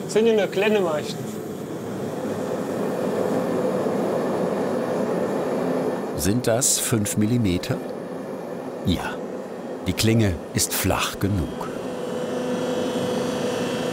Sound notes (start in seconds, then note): 2.4 flame hissing; 11.8 machine whirring